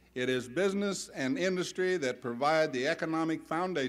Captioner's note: none